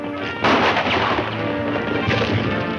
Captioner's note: gunshots